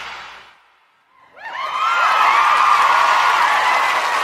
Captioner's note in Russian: апплодисменты